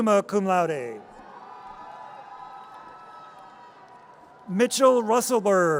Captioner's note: audience cheers